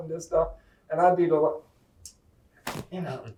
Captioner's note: tongue click